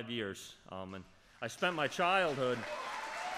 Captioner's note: applause